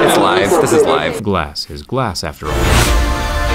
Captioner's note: voiceover; mysterious music